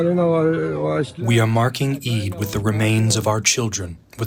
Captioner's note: through translator